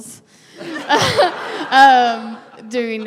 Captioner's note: laughter; laughing